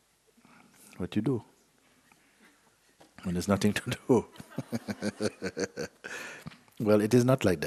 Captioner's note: laughter